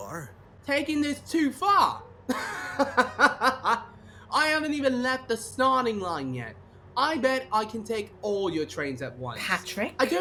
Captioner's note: laughs